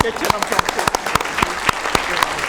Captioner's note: applause